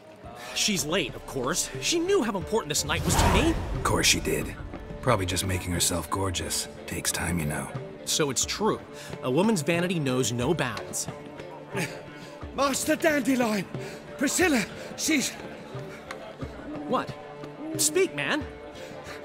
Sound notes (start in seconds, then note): 12.3 pant; 15.5 panting